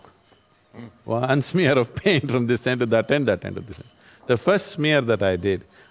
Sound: laughs

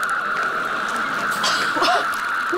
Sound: gasping

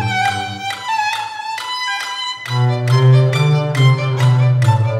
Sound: none

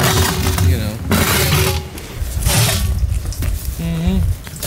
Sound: metal and rock scraping

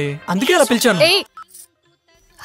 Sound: phone rings

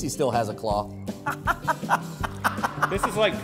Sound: laughing

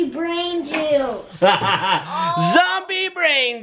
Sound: laughs

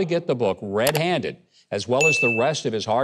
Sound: mouse clicks; bell dings

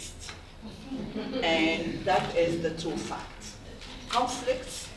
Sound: audience chuckles

